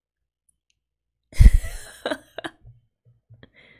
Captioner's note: laughs